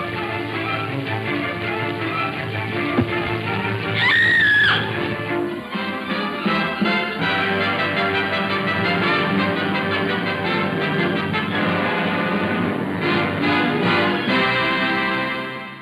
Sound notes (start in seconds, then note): 2.9 rock thuds; 3.9 Lucy screams; 6.2 triumphant music